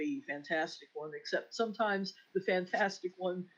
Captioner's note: none